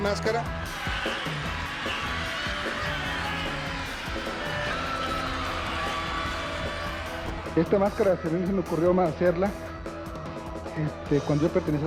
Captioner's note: cheering; reporter and Rey speak Spanish